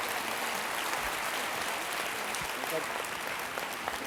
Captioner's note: applause